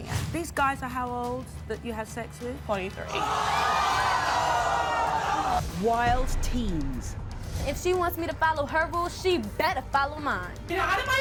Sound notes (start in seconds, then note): 3.5 groaning